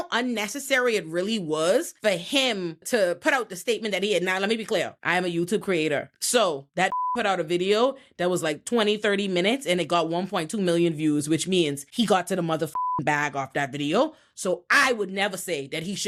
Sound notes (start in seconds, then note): 6.9 beep; 12.7 beep